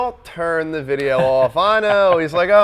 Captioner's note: laughs